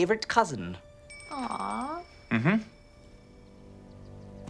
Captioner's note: phone ringing